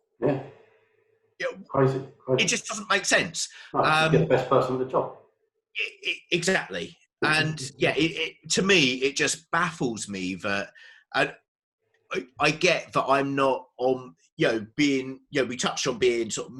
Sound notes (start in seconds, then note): 3.7 murmurs